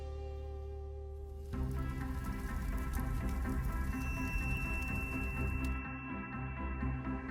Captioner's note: soft music; torch blazing; upbeat music